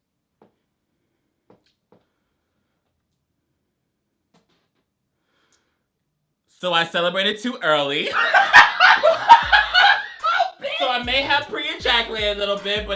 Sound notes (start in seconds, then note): 8.0 laughs